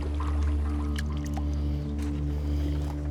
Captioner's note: none